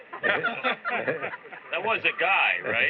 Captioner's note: laughter